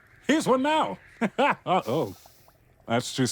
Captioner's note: sizzle